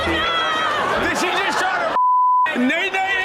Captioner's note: beep